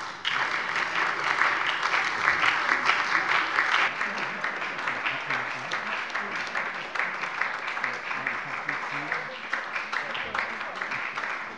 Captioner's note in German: Beifall bei der SPD